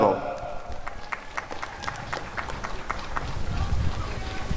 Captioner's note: applause and cheering